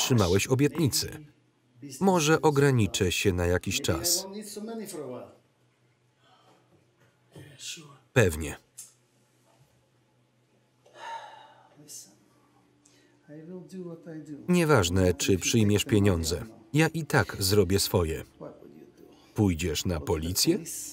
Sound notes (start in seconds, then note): 6.1 sighs